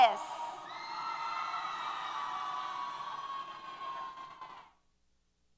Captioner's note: applause & Cheers